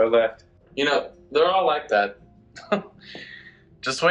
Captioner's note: scoffs